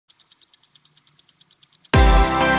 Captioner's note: clock ticking